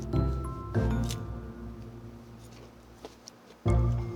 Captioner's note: Crunch